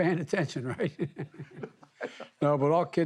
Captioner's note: laughter